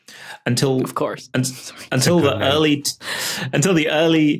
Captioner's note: giggles